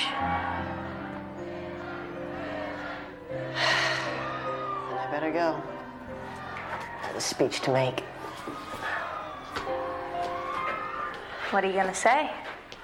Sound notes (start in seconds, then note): 0.0 crowd chanting "Taylor"; 3.1 Griffin sighs